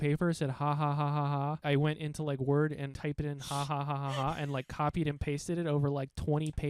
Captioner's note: laughing